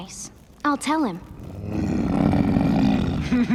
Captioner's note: grunting; laughing